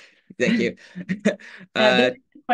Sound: laughs

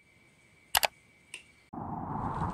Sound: click

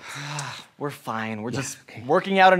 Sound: sighs

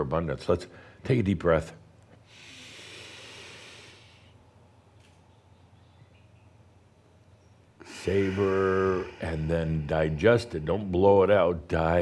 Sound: they take a deep breath

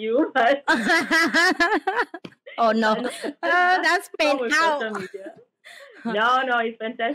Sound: laugh

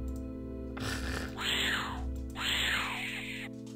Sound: laughs

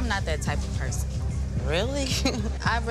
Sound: chuckling

